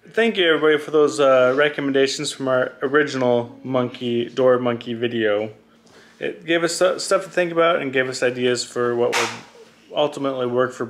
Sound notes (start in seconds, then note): none